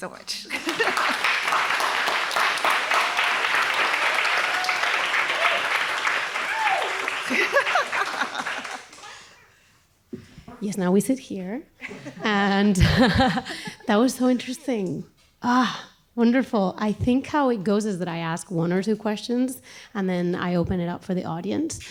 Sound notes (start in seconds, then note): 0.3 applause; 2.9 cheering